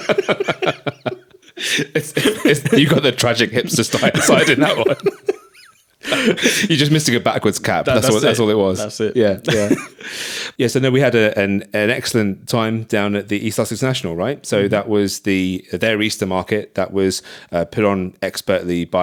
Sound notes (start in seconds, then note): 0.0 laughs